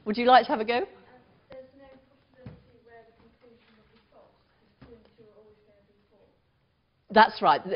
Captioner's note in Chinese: 無聲